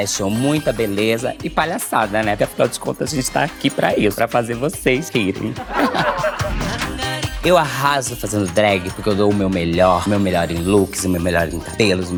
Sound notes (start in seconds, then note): 5.5 laughter